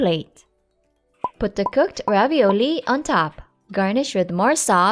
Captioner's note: bubbles popping